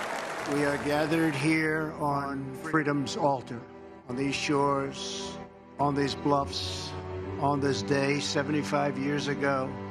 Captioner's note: applause